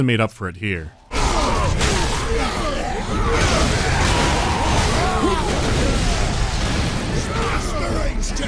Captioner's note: mighty bashing